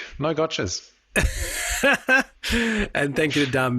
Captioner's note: laughing